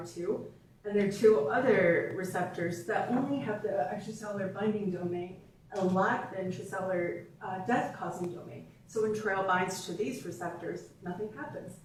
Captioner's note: off microphone